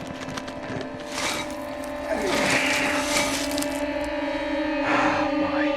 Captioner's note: suspenseful music; James grunting; bombs clanging